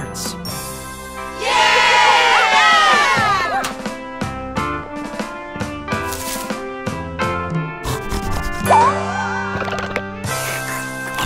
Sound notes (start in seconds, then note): 1.3 cheering; 7.8 sniffs